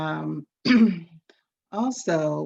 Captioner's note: clears throat